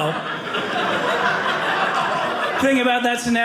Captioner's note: audience laughing